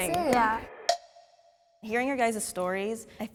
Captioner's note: timer taps